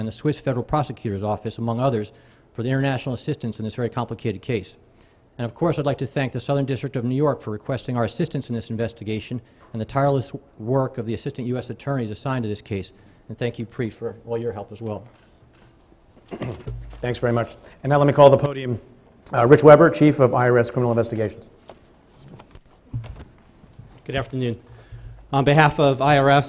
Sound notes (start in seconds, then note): 16.2 clears throat